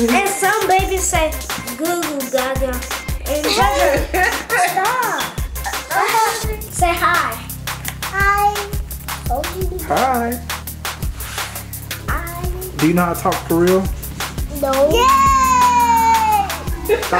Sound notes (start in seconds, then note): 3.2 laughs